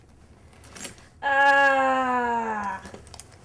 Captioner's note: hard sigh